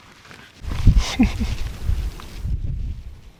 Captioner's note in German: lacht